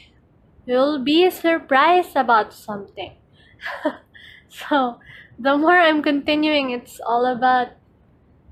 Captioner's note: chuckles